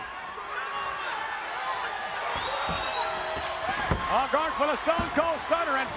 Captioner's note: audience cheering